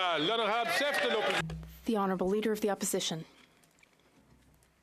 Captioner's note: some Applause